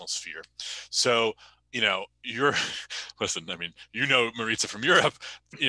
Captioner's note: chuckles